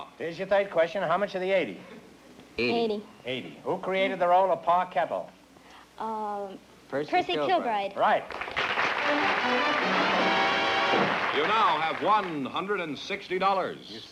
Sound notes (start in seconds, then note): 8.2 applause, fanfare